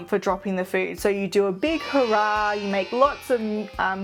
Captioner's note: children cheer